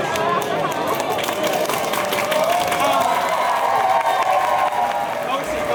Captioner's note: applause and cheers